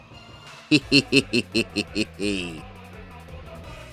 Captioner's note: devilish giggle